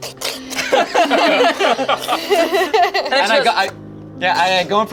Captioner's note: everyone laughing